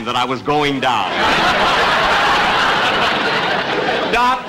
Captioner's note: audience Laughing